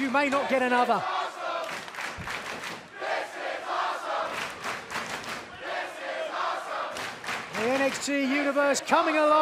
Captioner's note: fans chanting